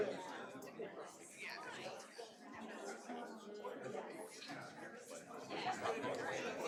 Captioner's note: indistinct audience chattering